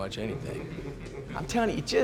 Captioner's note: all chuckle